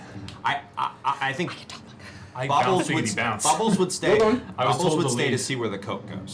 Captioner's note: whispering